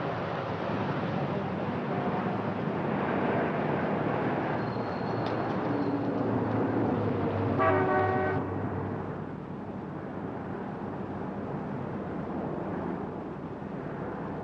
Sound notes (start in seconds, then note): 7.6 car horn honking